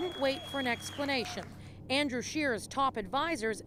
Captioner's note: applause